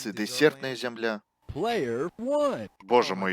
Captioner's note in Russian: алічбаваны голас